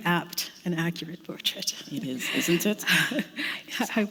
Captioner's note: chuckle